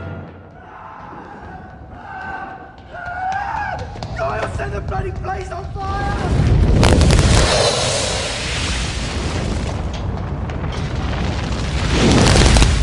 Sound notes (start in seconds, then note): 1.2 screaming